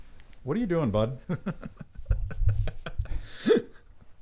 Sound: laughing

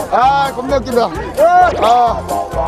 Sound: burst out laughing

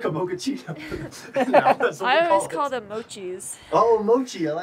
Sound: laughter

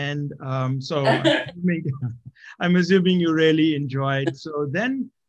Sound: laugh

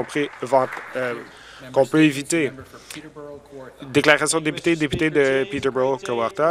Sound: some Applause

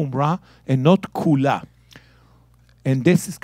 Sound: speaking in Hebrew

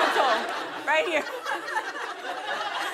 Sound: laughter

